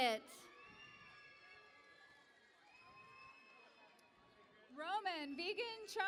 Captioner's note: cheering and Applause